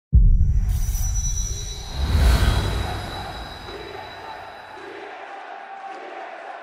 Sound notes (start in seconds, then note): 2.5 TSM TSM TSM TSM chant